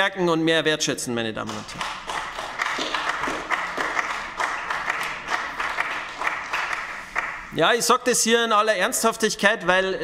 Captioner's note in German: Beifall bei den GRÜNEN